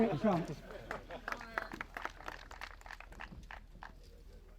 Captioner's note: applause